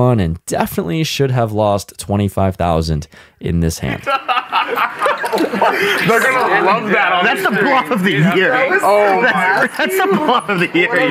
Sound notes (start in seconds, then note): 3.8 laughing